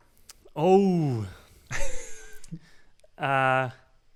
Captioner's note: laughs